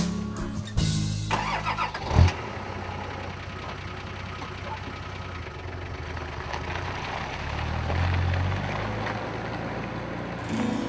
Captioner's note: vehicle starting and running